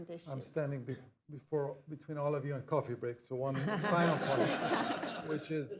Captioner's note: laughter